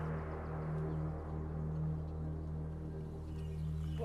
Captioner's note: birds chirping